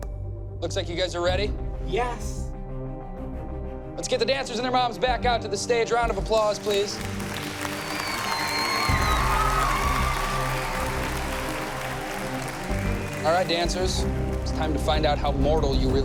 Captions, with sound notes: Looks like you guys are ready. Yes. Let's get the dancers and their moms back out to the stage. Round of applause, please. [cheering] All right, dancers. It's time to find out how mortal you really are.